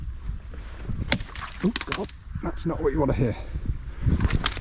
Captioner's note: cracking branch noise